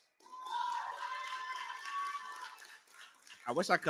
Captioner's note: cheering